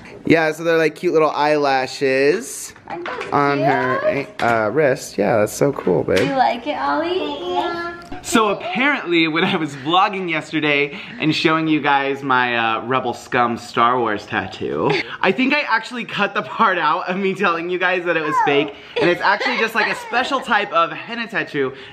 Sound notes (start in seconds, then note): 8.5 boys murmur